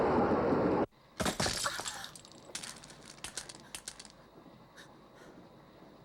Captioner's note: bag and contents clatter